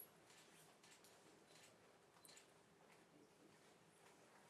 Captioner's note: camera shutters